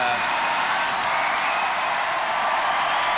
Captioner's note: cheering continues